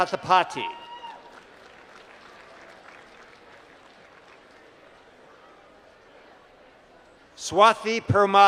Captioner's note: applause